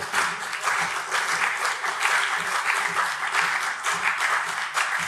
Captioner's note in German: Beifall CDU und SPD